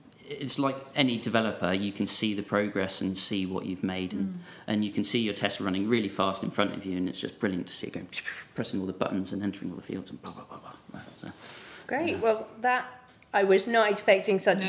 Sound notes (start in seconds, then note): 8.0 makes zipping sounds; 10.1 makes popping noises